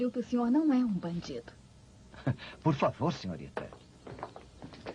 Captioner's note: footsteps